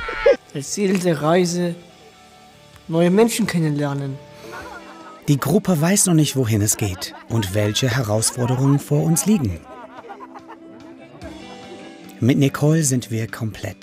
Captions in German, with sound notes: (Lachen) Das Ziel der Reise ... neue Menschen kennenlernen. Die Gruppe weiß noch nicht, wohin es geht und welche Herausforderungen vor uns liegen. (Lachen, entspannte Musik) Mit Nicole sind wir komplett.